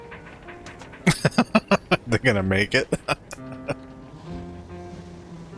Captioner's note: laughing